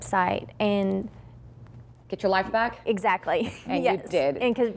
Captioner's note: laughter